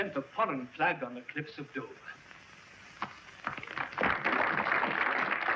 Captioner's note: audience applauds